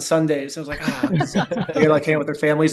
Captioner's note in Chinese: 笑声